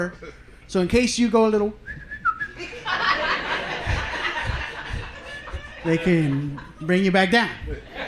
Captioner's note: whistling